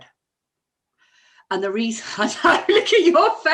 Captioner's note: laughs